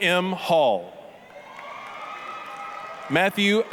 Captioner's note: applause, cheering